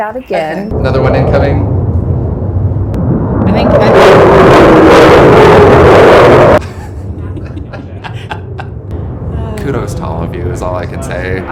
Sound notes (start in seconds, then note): 0.3 jet noises; 3.4 jet screeches